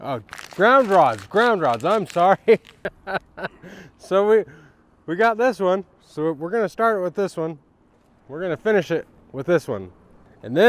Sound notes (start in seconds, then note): 2.2 laughs